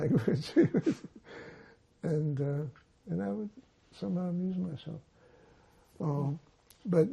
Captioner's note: laughing